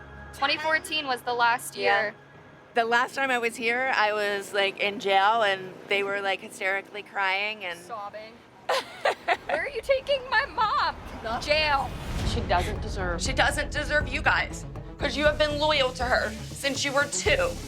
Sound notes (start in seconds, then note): 8.7 laughs